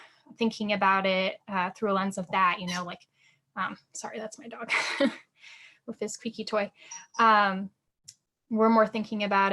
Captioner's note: squeak noise